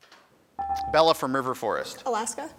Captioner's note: buzzer dings